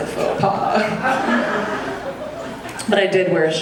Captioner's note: audience laughing